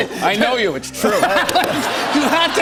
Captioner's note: laughter